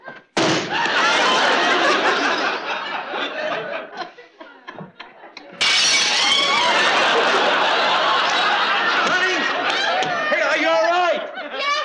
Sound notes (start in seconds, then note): 0.3 thunk; 5.6 glass shatters